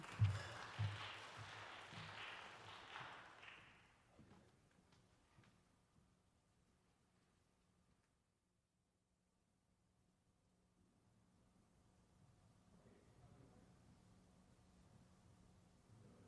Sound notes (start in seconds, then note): 3.3 applause